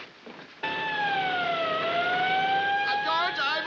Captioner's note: siren wails; screaming